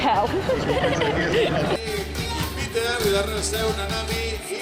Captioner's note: giggling